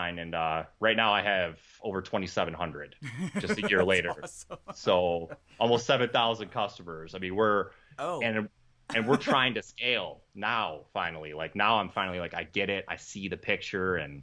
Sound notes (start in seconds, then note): 3.0 laughing